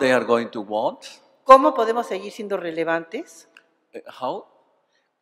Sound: speaking spanish

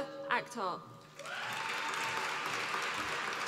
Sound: applause

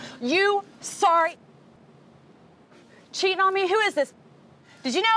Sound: muted

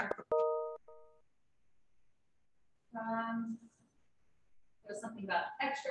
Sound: computer notification chiming

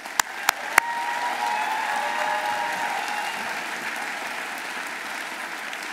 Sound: audience applauding; audience cheering

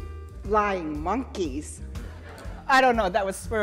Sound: audience laughing

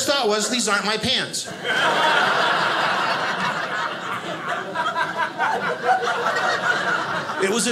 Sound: audience laughing

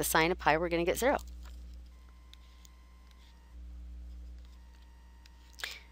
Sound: silence

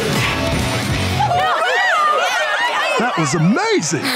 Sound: cheering

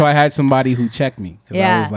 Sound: laughing

